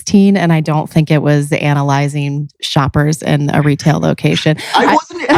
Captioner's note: laughs